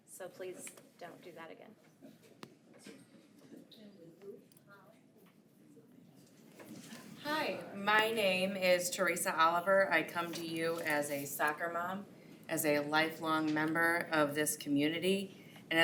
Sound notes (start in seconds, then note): 4.2 unmiced voice talking